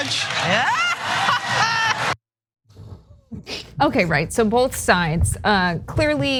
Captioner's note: laugh